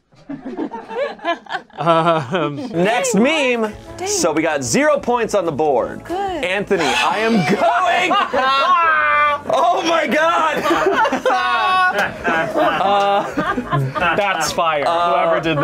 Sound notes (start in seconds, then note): 0.2 awkward laughter; 7.2 laughter